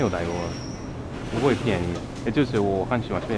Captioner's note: mandarin